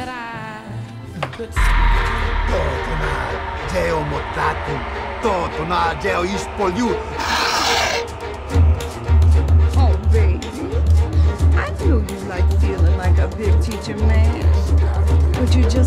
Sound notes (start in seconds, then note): 1.7 screeching noise; 2.6 foreign language; 7.3 man hisses; 9.4 drums playing